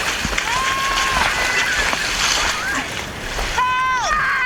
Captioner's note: all shouting